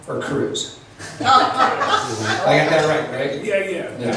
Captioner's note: laughs